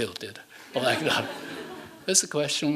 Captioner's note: laughing